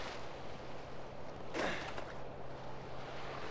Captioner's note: breathing